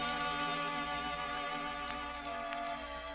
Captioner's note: horns blare